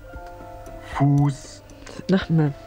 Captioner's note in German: Computerstimme